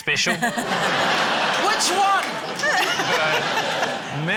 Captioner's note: laughter